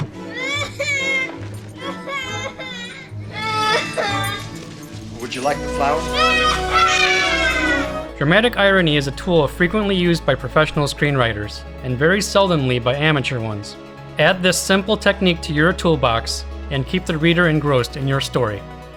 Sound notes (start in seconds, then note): 0.2 fake crying; 5.9 cries louder